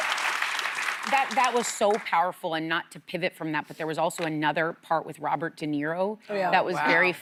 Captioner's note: applause